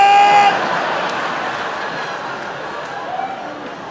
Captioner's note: audience laughing